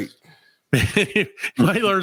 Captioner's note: laughs